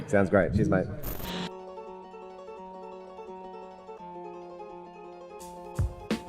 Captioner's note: electronic distortion